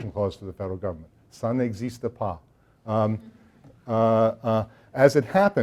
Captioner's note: french